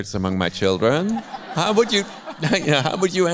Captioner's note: audience laughs